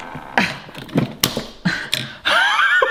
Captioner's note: can clicks; laughs